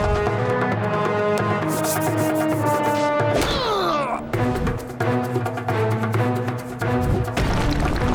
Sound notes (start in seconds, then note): 3.5 groaning